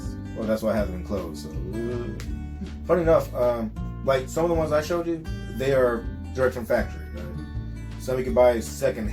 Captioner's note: nervous breath